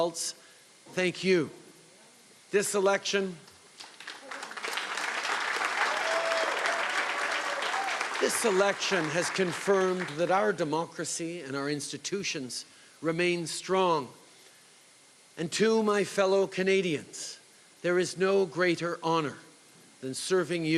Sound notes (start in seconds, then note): 8.6 applause